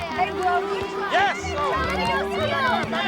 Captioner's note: all shouting